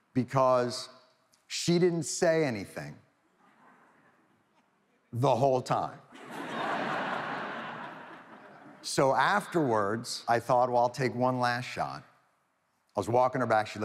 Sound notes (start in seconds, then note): 6.1 audience laughs